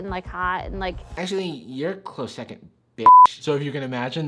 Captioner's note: beep